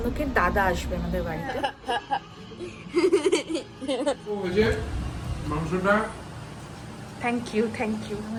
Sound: loud laughter

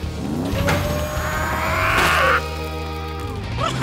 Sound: grunting

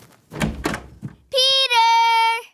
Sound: footsteps thudding; door clicks

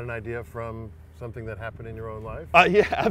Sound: laughs

